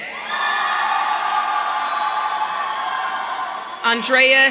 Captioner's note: audience cheering